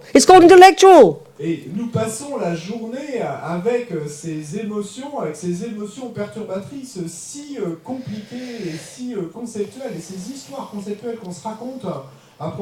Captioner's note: French